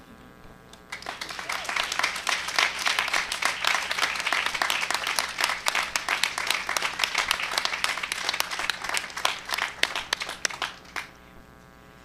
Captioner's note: applause